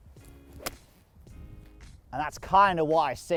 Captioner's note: club hitting